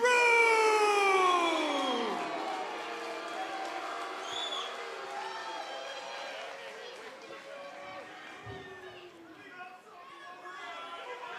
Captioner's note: cheers and boos